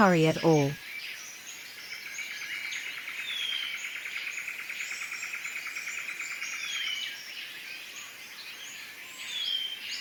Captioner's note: birds sounds and chirps